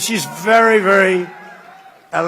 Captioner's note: applause